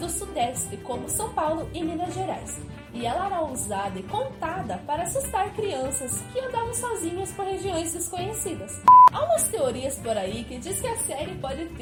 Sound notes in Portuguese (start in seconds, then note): 8.8 bip